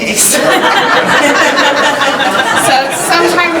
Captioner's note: laughing